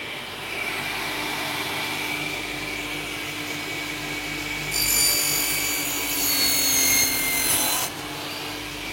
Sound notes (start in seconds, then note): 0.0 machine noise